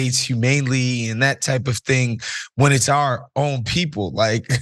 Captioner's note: laugh